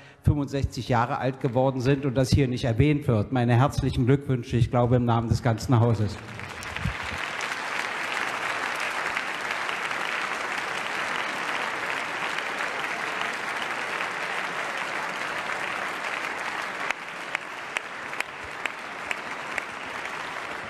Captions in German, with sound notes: 65 Jahre alt geworden sind und das hier nicht erwähnt wird. Meine herzlichen Glückwünsche, ich glaube im Namen des ganzen Hauses." (Applaus)